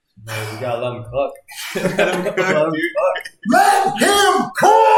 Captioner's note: laughs